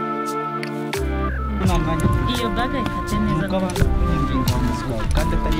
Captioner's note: speaks in foreign language